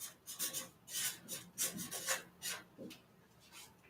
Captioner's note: скрежет маркера